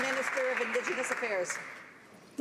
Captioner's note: some Applause